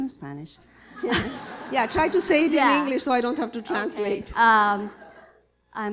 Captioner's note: laughter